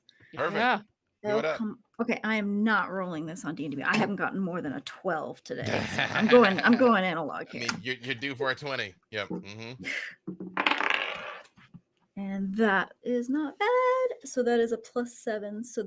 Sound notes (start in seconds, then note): 10.5 dice rattle